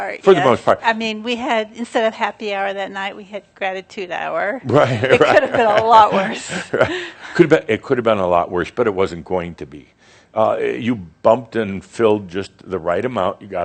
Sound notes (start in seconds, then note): 4.7 Adamus chuckles; 6.7 she chuckles